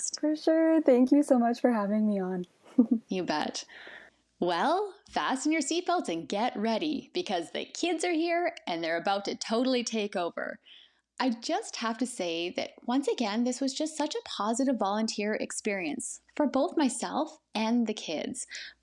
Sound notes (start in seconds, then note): 2.6 giggles